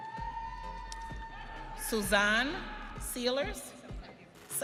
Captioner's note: audience cheering; light music